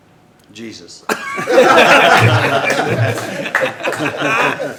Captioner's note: hearty Laughter